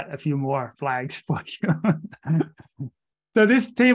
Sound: laughing

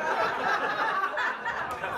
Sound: laughter

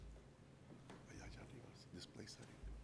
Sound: speaks Spanish

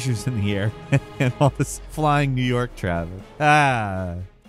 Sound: chuckles

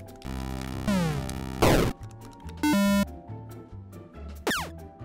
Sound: electronic beeps

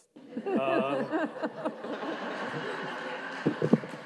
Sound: audience laughs

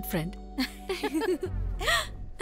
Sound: chuckles

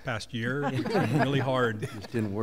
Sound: laughter

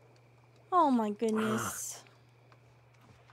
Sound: Scrooge Sighs

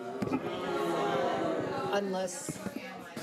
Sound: audience booing

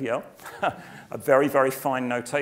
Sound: laugh

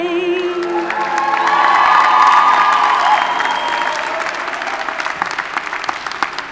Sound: audience cheers and applauds

